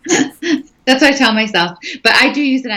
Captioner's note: laughing